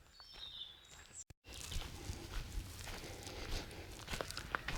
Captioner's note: footsteps